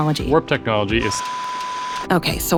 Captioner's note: beeps and static